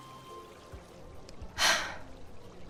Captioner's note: sigh